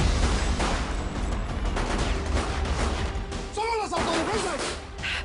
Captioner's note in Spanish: Disparos